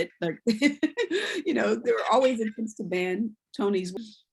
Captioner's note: laughs